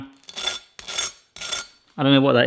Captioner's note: knife scrapes